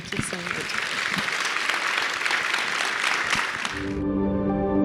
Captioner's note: audience applauds; bright music